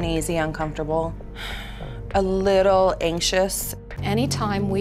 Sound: sighs

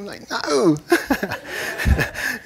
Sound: laughter

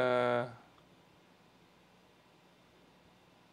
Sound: none

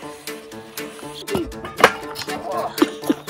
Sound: cans spraying; cans rattling; groaning; laughing

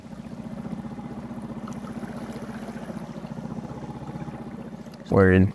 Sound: boat engine clanking

